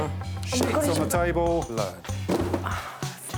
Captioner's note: grunting moodily